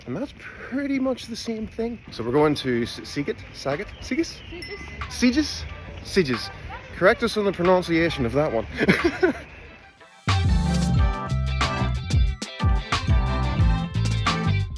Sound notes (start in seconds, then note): 8.7 laughs; 9.8 upbeat hip-hop music plays